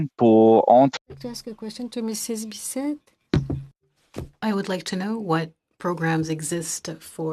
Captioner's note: speaking French